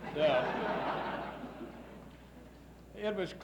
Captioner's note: laughs